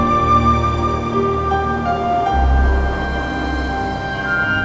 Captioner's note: waves crashing